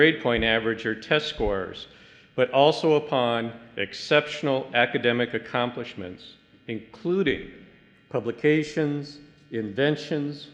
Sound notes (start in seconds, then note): none